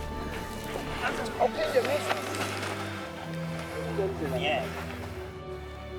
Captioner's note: indistinct conversation